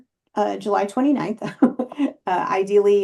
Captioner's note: chuckles